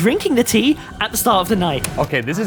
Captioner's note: tape clicks